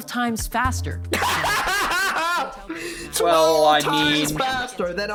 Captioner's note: laughing in outdated specs